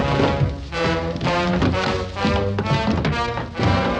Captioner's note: clattering